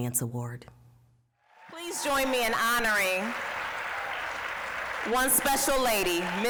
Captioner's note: applause, cheering